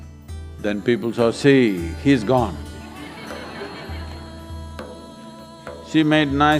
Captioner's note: laughter